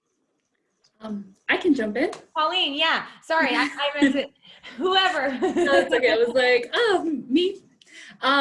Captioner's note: laughter